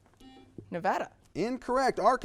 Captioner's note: buzzer beeps